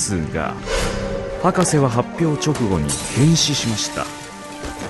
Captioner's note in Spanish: hombre gruñendo, vidrio rompiéndose